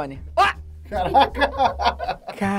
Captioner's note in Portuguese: risadas